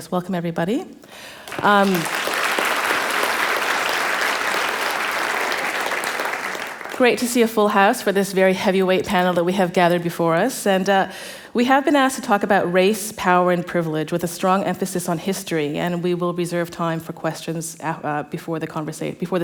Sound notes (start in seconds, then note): 1.3 applause